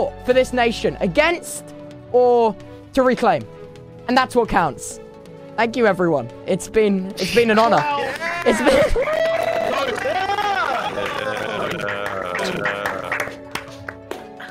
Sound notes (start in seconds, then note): 7.6 everyone clapping; 12.8 claps